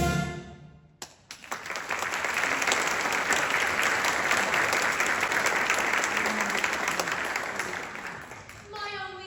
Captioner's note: music concludes; applause